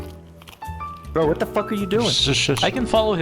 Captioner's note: shoosh